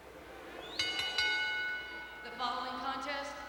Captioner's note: bell rings